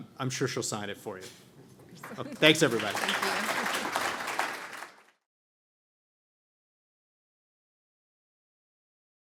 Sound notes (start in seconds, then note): 2.0 audience applauding